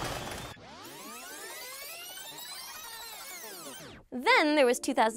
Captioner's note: tape rewinding